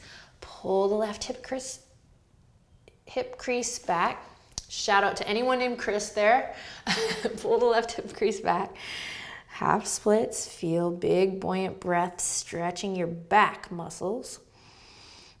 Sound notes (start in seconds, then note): 6.5 laughing